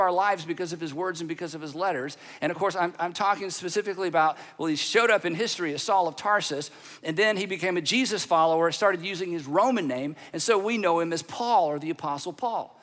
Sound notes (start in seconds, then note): none